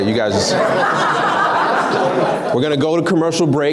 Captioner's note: laughs